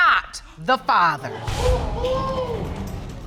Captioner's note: audience exclaim